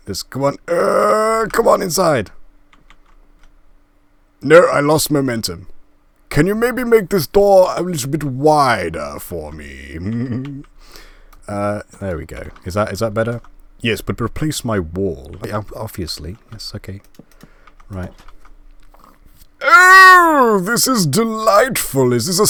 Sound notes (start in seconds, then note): 9.8 laugh